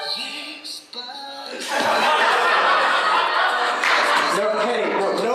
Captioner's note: laughter